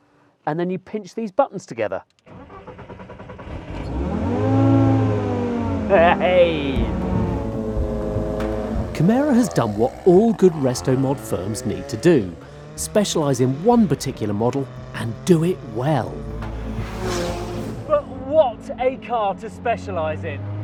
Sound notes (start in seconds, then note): 2.2 engine starts